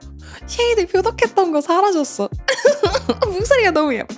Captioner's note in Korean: 웃음